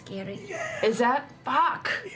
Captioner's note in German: flüstert